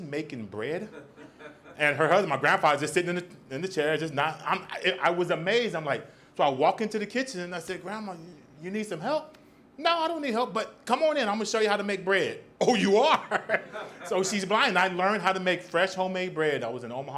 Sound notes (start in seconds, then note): 12.6 laughs; 13.2 audience laughs